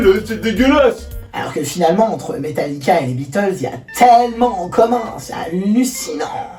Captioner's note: Parisian accent